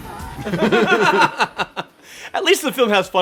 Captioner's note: laugh